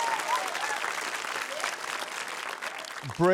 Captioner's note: cheering, applause